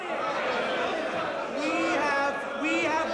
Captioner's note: angry shouting